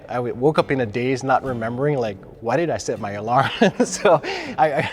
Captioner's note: laughs